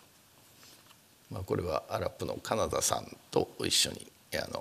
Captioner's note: speaking japanese